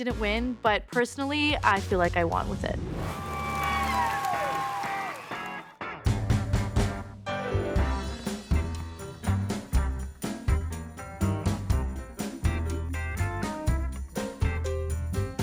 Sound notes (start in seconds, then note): 3.0 audience cheering